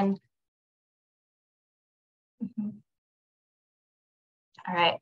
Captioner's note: silence